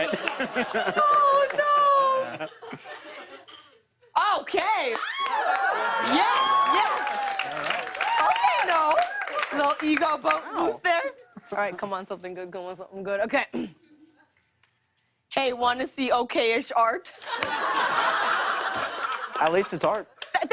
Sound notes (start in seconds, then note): 0.0 laughter; 4.9 cheers and applause; 17.1 laughter